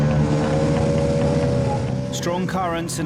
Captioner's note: boat engine revving